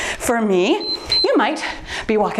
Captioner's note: timer beeps